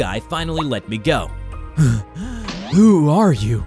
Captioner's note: gasping